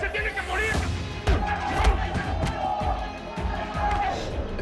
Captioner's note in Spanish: Golpes